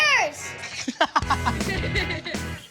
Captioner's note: laughs